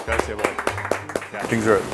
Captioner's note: all clapping